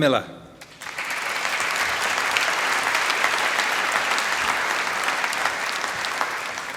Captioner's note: applause